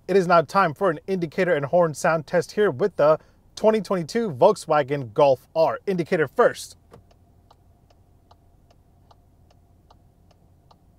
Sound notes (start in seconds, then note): 7.2 clicking